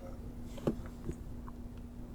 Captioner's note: shoulder cracks